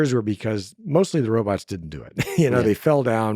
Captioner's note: laughs